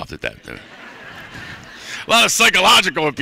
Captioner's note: laughter